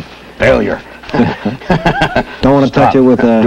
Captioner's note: laughs